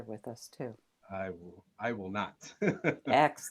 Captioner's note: laughs